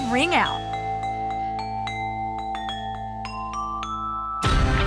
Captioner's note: chiming